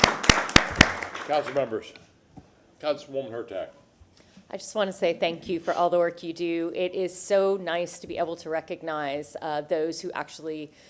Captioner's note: applause